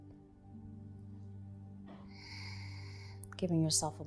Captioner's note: exhaling